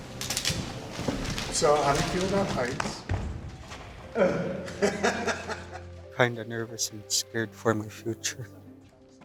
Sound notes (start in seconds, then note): 4.1 laughs